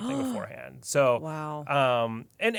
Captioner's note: gasps